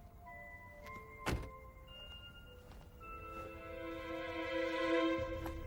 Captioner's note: car door slams; foreboding music continues